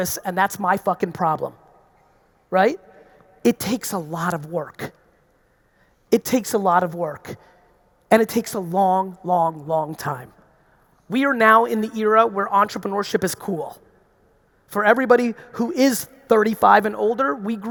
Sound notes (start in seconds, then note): none